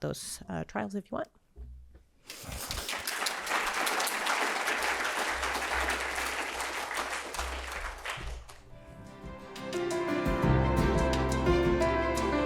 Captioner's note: applause